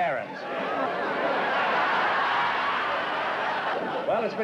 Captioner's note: laughter